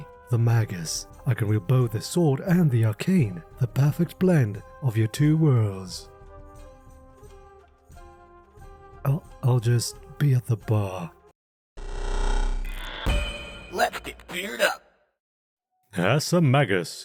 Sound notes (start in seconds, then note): 7.2 awkward silence